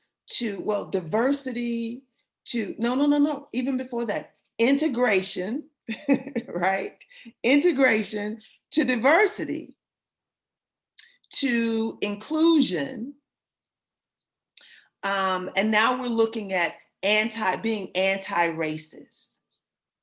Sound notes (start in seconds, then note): 5.8 laughter